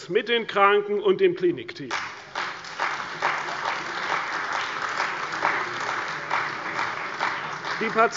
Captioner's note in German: Beifall bei der CDU und dem BÜNDNIS 90/DIE GRÜNEN